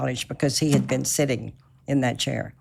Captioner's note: none